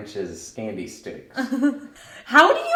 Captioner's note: laughing